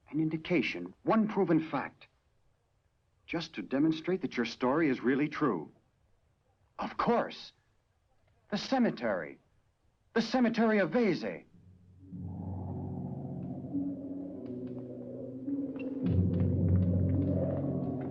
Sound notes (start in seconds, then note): 11.6 wind howling; 12.0 suspenseful orchestral music